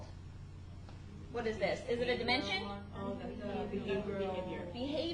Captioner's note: class mumbling